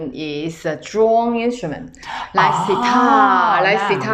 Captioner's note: drone